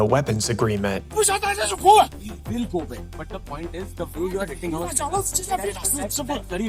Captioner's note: troops yelling and arguing